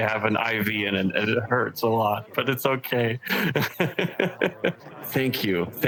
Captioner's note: laughs